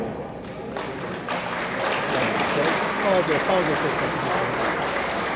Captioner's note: attendees applaud